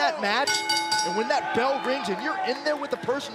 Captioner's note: bell